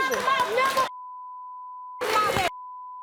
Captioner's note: beep